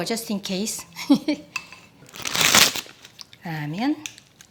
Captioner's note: Maangchi laughs